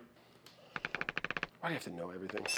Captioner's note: wood creaks